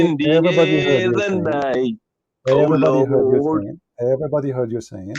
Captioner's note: Bertepuk tangan